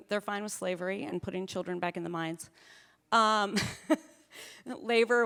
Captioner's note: chuckling